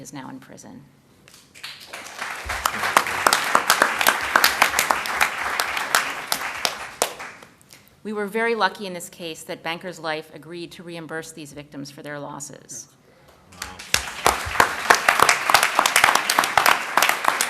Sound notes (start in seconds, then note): 4.4 applause; 16.6 applause